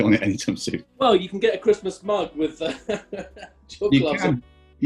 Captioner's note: chuckling